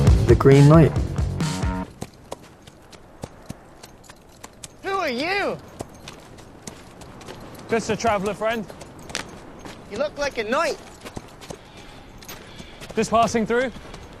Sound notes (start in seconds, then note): 2.2 horse hooves clopping